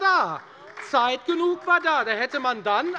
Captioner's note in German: Beifall bei der FDP und der SPD